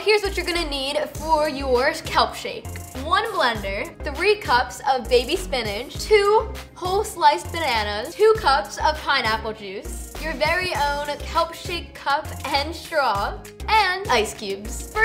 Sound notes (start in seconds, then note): none